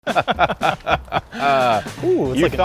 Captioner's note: both laughing